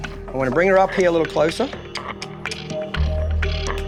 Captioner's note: tongue clicks